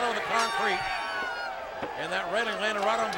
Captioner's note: bell dinging